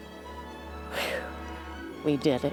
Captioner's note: sighing